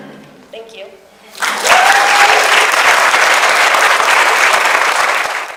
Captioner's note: audience applauds